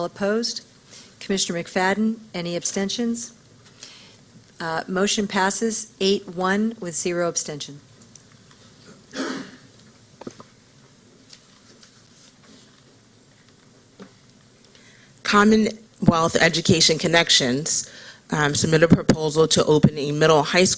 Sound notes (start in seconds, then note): 8.7 silence